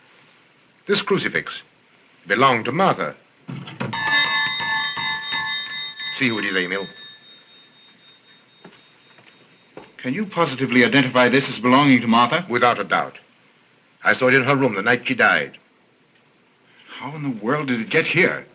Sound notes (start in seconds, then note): 3.9 bell ringing